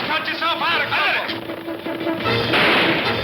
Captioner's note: suspenseful orchestral music; guns firing; whistles